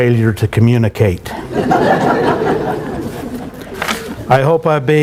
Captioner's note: laughter